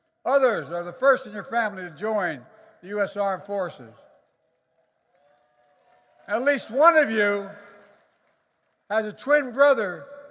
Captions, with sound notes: Others are the first in your family to join the U.S. Armed Forces. (Applause.) And at least one of you has a twin brother